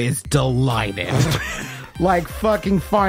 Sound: laughter

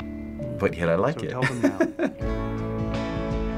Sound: laughs

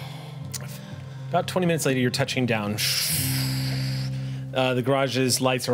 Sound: whooshes

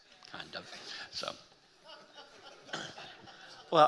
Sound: audience member laughing

